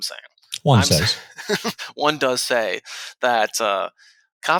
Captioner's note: laughs